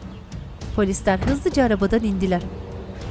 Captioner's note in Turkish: Kapı kapanma sesi